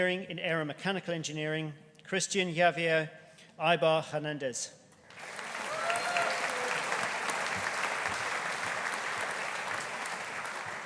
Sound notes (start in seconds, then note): 5.1 audience applauding